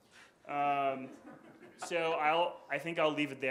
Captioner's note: audience chuckles